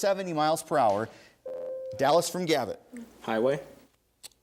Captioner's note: ding